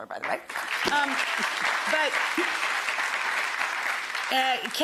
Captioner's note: audience applause